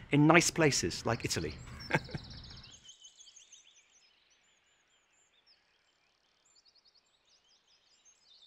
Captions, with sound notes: in nice places like Italy. (laughter)